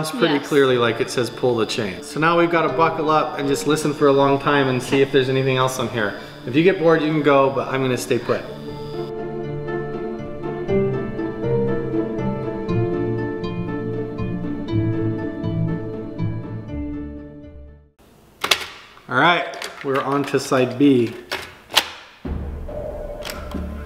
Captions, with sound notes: - Yes. - And it sounds pretty clearly like it says pull the chain, so now we've got to buckle up, and just listen for a long time, and see if there's anything else on here. If you get bored, you can go, but I'm going to stay put. (tense music) (tape player opens) All right, we're onto side B. (tape machine closes)